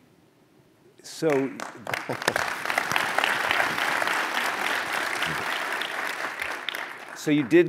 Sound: applause

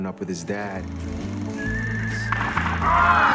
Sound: horse neighs; gunshots

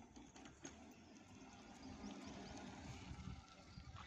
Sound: motor sound

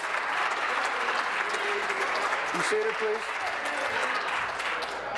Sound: applause

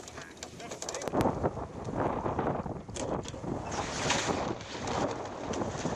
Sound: sounds of tacking

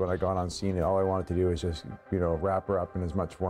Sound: voiceover

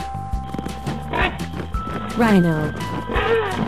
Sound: rhino sound

